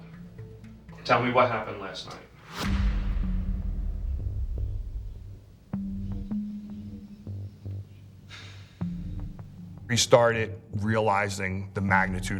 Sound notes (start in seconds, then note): 2.4 dramatic music; 8.3 sighs